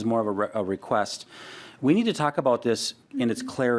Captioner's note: laughing